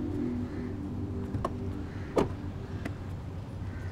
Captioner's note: Car door closes